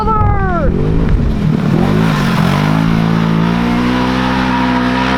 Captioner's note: ATV engine roaring